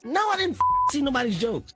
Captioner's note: beep